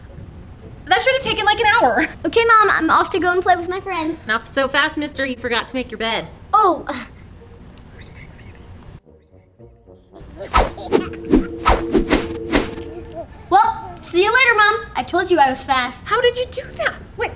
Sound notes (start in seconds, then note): 6.6 whispers; 10.1 baby laughing; 10.4 bed whooshing